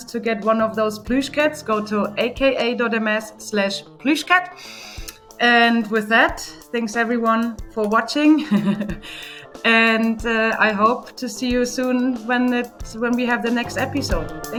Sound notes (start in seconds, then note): 8.4 laughs